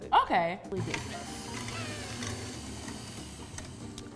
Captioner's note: mixer whirs